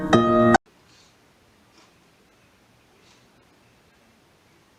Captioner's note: TV noises